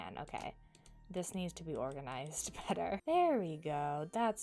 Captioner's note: chuckles